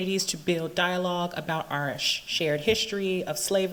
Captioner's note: none